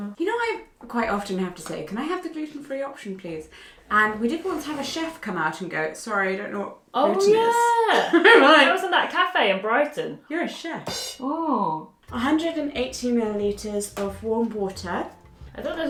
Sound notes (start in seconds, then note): 8.5 laughs; 11.1 cymbal sfx